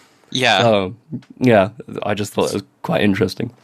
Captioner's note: laughs